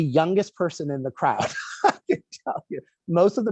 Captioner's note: laughs